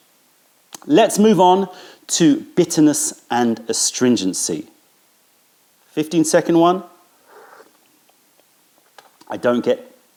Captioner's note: sips tea